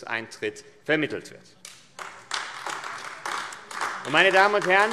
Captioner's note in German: Beifall AfD